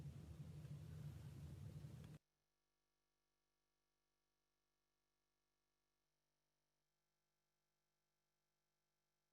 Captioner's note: long silence... mouth moving but no audio